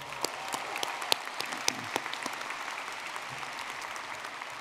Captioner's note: audience clapping